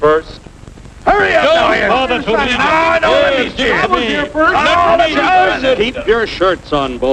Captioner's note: men screaming